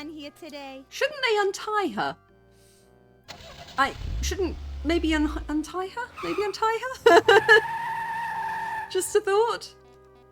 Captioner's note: laughing